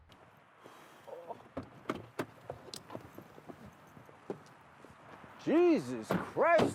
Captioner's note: men coos in awe; car dor clicks open